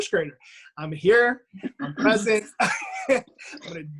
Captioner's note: laughs